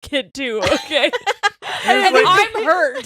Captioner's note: laughing